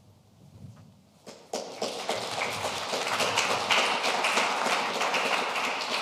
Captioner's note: audience applauding